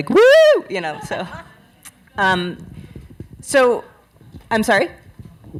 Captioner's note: crowd chatter